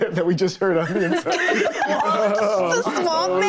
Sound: group laughing

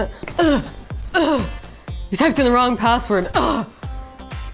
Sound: groans

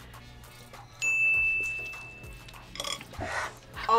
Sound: bell rings

